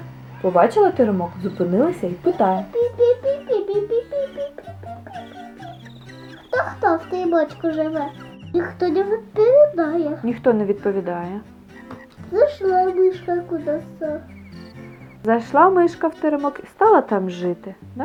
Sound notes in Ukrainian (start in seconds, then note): 4.3 пі-пі-пі-пі-пі